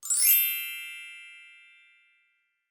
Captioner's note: chimes